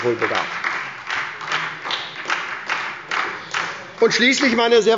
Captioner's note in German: Beifall bei der SPD